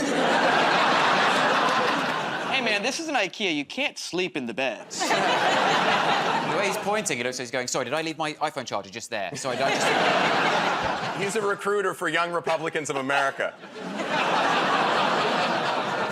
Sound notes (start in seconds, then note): 0.0 laughter; 4.9 laughter; 13.0 laughter